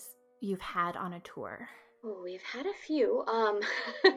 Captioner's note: laughs